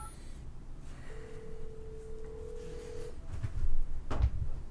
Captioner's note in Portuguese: celular tocando